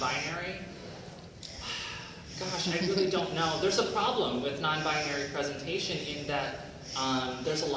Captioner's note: sighs